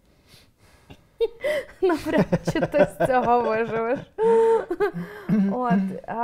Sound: laughs

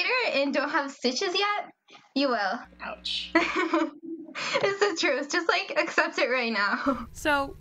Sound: laughs

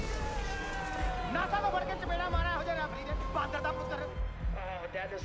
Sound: shouting; shouting in Punjabi; radio

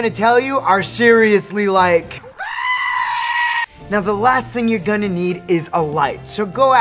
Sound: screaming

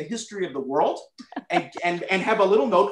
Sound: laughter

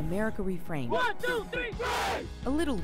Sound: chanting

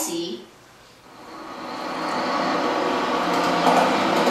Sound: car rustling

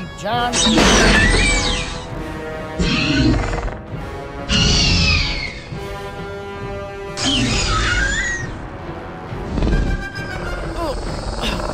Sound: velociraptor screeching; Ellie struggling sounds

